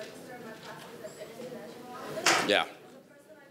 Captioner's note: speaking faintly